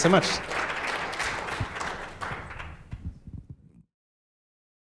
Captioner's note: applause